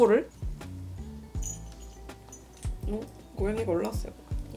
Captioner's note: sound of bell ringing